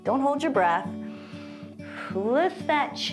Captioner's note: inhales and exhales